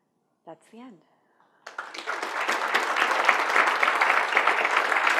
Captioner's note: clapping